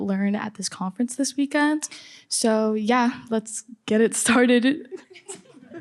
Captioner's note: laughter